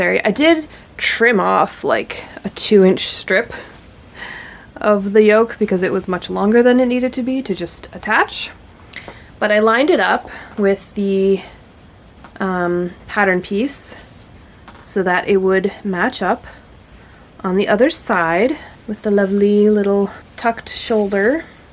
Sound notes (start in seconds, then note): none